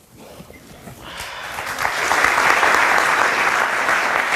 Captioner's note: audience applauds